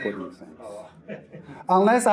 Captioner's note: audience Member Laughs